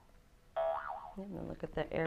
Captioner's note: boing